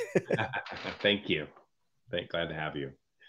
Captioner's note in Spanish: hombres riendo